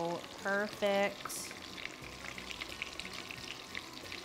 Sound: oil sizzling

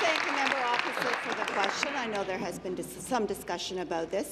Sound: applause

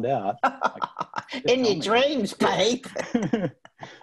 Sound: laughing

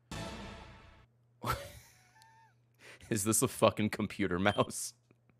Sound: laughs

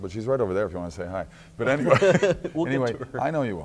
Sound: laughing; laughs

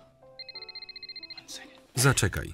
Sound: phone rings

